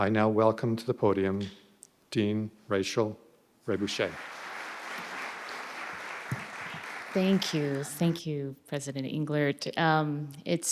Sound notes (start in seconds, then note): 3.7 audience clapping